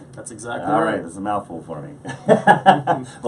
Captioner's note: laughs